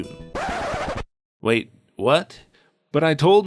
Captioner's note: record scratch